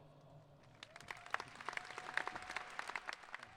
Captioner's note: applauding